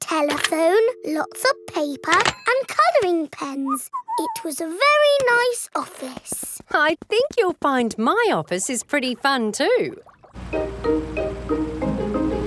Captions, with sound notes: There was a telephone, lots of paper and coloring pens. -(WHISTLES) -It was a very nice office. I think you'll find my office is pretty fun too!